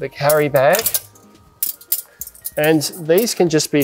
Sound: poles clinking

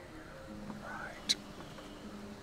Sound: whisper

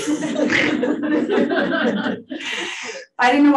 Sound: audience laughing

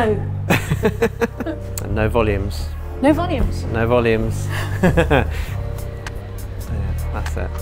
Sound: laughs

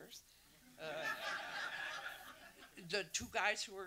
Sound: audience laughs

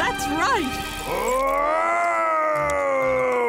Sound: Mr. Krabs groaning

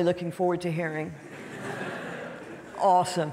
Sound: audience laughing

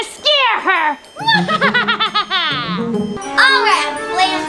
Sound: laughs

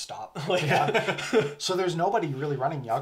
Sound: laughs

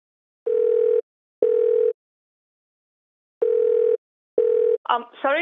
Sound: phone rings

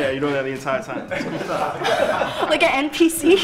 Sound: guys laughing

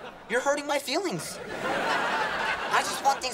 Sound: laughing

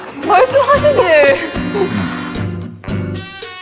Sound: genuine laughter

